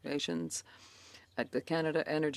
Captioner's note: speaking in French